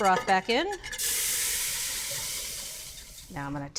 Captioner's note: pot sizzling